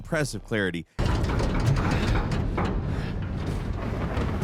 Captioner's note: metal clanking